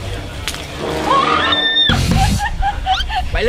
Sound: screams

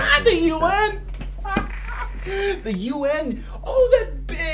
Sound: chuckles

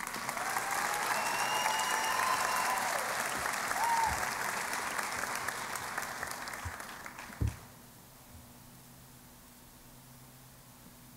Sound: applause and Cheering

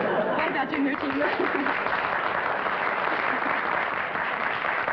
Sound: laughter; applause

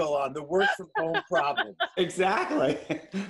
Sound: laughter

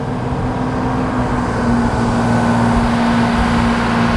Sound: boat roars

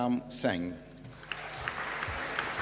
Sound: applause

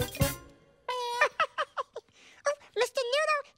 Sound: Elmo laughs

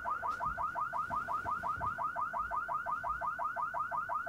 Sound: car alarm blaring

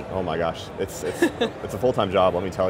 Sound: laughing

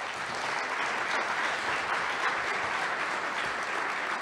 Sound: applause

